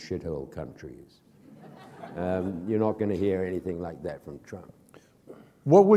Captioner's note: laughter